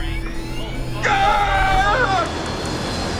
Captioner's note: pilots grunting; engine whines